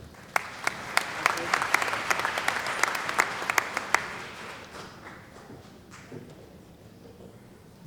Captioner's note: applause